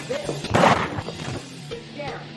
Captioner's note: shotgun shot